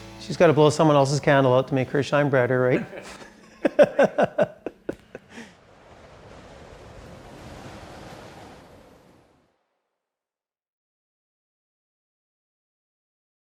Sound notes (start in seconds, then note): 2.8 crew laughing; 5.9 wind blowing